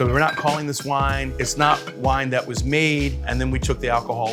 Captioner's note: bottles clanging